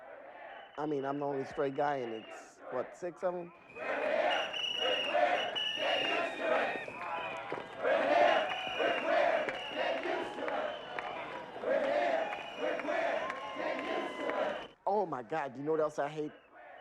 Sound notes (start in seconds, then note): 3.2 chanting